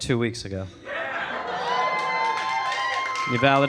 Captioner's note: audience cheering